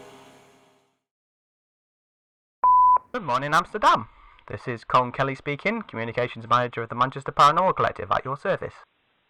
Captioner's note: beep of an old answering machine